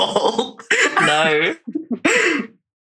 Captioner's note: laughs